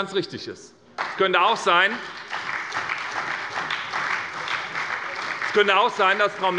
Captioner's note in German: Beifall bei der SPD